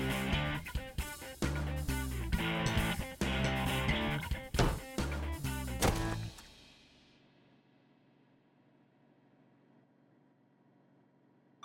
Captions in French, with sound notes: [bruits de combat] Quelle que soit la somme d'entraînement, on dirait que c'est voué à l'échec ! De quoi est-ce que tu parles ? J'ai ça dans le sang !